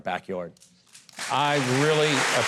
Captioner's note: audience clapping